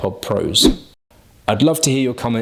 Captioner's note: air whooshes